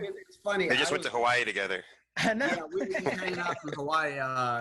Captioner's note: laughing